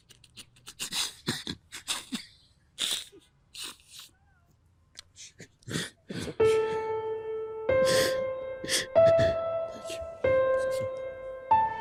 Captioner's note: crying